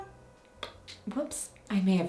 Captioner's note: beat